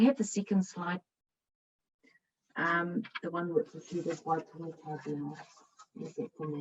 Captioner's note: background chatter